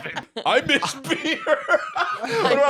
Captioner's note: laughing